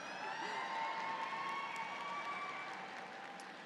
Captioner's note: audience cheers